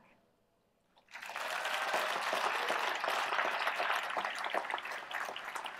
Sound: applause

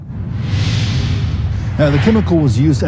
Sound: whooshing

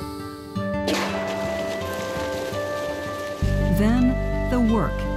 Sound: cannon fired

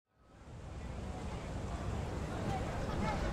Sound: chatter

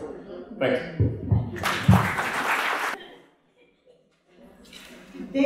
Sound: applause

